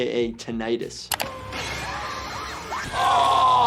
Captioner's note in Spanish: Gritos de la gente